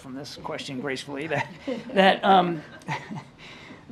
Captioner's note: laughter